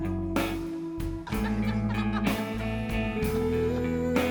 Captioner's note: all laughing